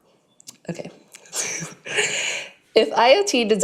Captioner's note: chuckles